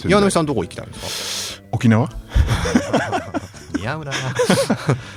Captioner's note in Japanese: 鼻息; 笑い